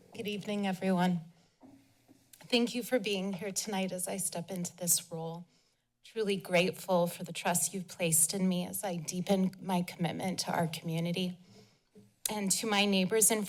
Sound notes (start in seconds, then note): 1.4 pause